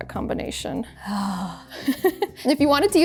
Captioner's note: giggles